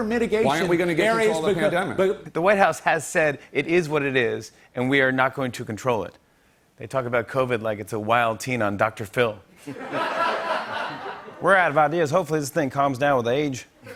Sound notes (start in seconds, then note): 9.6 laughter